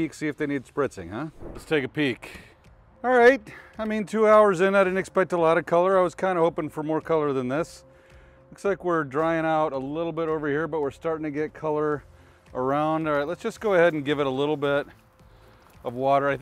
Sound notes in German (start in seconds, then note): 1.2 Übergang rauscht